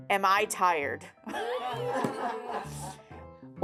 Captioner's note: everyone laughs